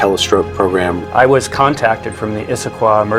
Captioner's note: voiceover